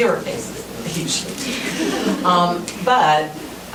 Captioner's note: laughing